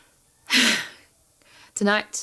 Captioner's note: laughs